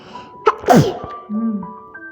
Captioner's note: sneezes